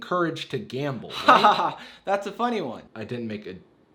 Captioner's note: chuckles